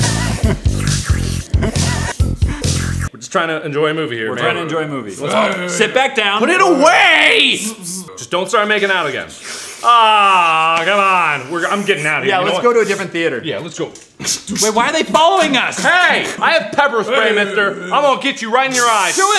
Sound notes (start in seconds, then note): 5.2 grunting; 9.6 kissing noises